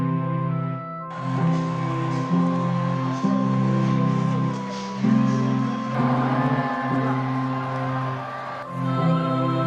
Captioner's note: crowd noise